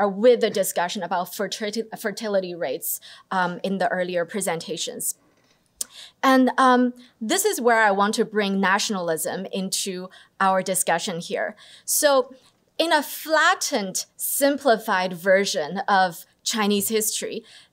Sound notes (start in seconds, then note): none